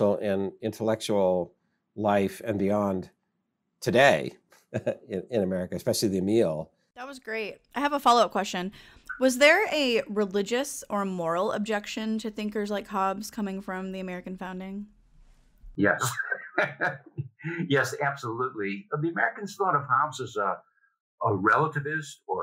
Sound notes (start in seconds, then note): 15.9 softly laughs